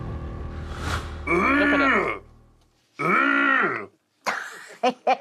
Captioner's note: grunting; laughs